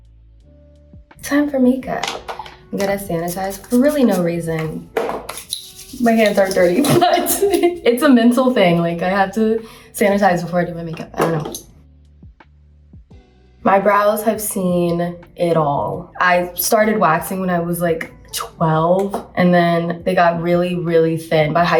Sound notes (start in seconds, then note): 2.0 gua sha thudding; 6.7 laughs